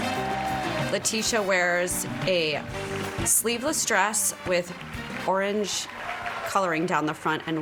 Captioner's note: applause